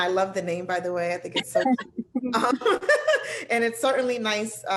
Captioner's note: laughter